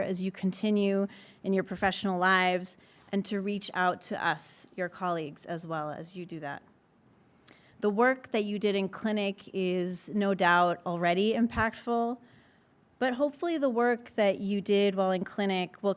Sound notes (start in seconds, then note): none